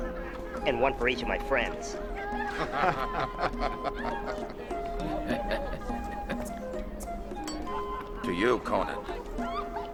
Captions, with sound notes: And one for each of my friends. (laughing) - To you, Conan.